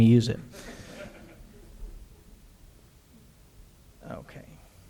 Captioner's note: audience laughter